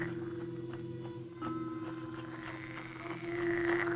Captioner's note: animal croaking